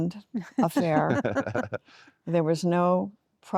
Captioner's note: laughter